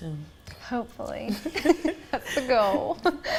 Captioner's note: everyone laughs